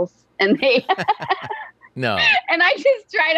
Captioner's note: laughs